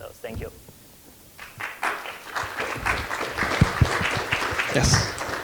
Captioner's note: audience applauding